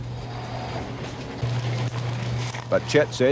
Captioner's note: engine hums